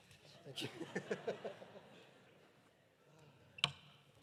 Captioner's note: audience laughing